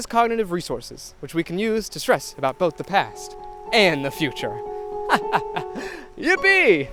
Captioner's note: laughs